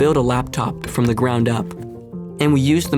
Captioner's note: knocks